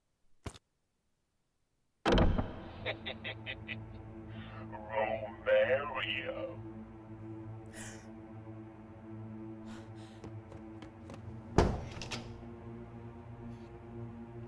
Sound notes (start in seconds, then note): 2.2 ominous music; 2.8 leprechaun laughing; 7.7 Mischa gasping; 11.7 door thudding